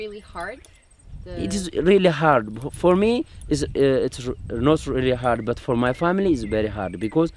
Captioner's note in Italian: Inglese